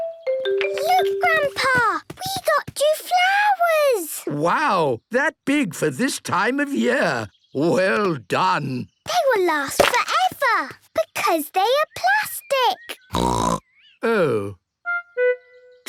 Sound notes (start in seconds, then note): 13.1 snorting